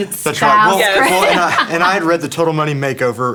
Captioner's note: laughing